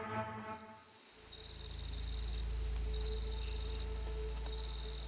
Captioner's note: insects chirping